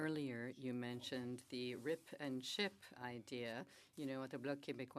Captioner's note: speaking French